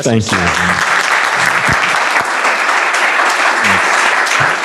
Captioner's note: applause